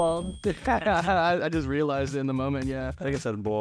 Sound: chuckling

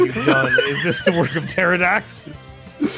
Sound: laughs

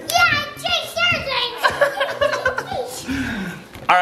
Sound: laughs

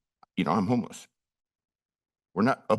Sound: pause

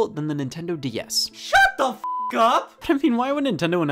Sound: beep

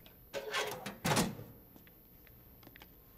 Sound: fusebox door closes, footsteps

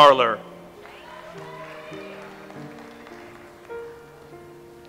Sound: audience applauds

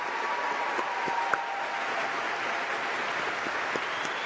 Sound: applause

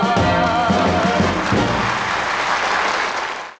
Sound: audience applauding

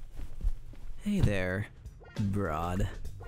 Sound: seductively

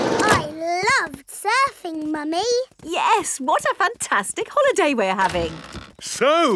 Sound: none

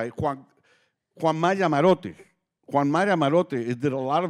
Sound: speaking Spanish

